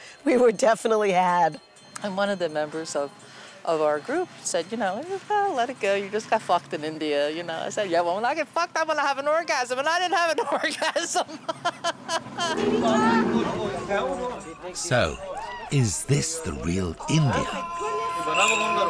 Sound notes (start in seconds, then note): 12.5 camel groans; 18.7 music - Traditional street music